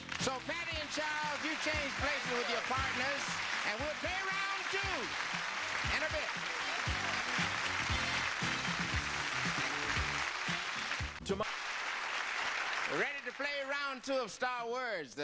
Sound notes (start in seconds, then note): 7.2 audience applause; 7.2 theme music